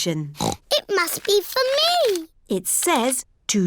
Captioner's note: snorts